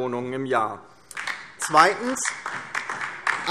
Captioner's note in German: Beifall DIE LINKE